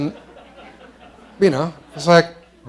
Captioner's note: laughter